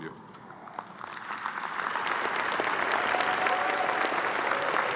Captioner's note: crowd applauding